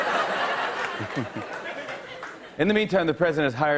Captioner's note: laughs